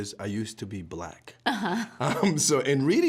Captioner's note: both chuckling